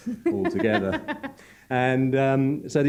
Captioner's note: laughs